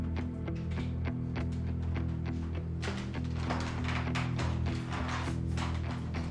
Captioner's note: dramatic suspenseful music; floorboards creaking